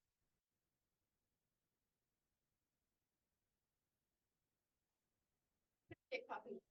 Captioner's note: no audio-break